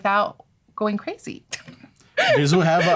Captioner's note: laughter